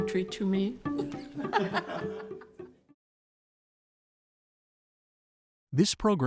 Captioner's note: laughter